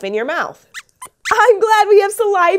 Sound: squeaks squeaks

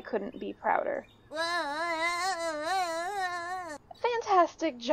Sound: Specklepaw Yelling

